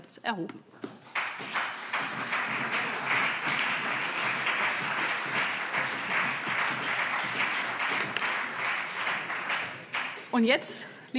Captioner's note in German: Beifall